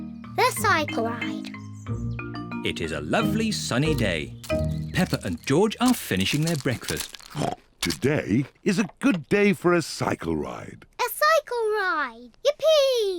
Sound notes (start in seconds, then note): 7.3 snorts